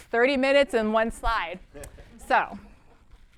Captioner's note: laughter